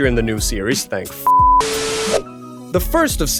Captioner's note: static noise